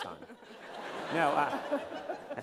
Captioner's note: laughter